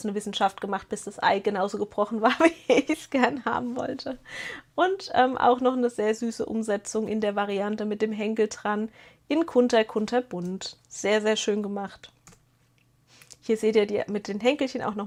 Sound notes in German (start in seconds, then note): 3.2 gelächter; 4.2 japst